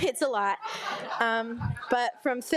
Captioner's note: all laugh